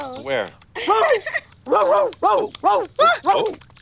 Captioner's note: rose barking